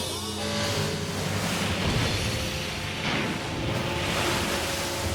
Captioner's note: boat crashes